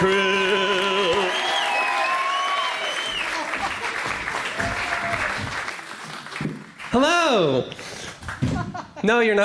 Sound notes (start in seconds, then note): 2.1 applause; 2.1 cheering